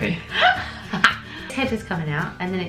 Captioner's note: laughs